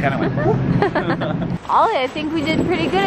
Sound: laughs

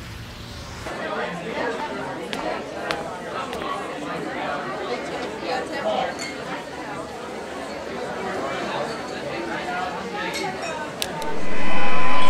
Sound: crowd noise

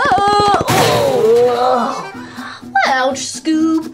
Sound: bang

